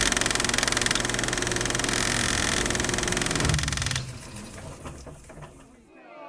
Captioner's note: film splicer zipping; film splicer clicking